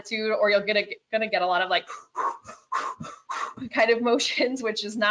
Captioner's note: deep panting